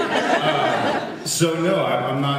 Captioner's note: laughs